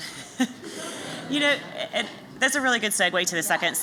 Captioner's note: laughter